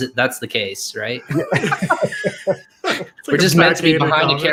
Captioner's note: laughs